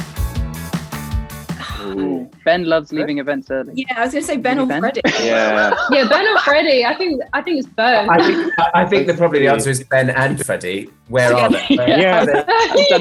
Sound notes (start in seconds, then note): 5.0 Archie laughs